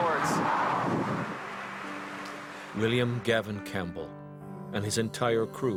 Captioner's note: voiceover